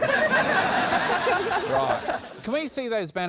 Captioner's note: laughter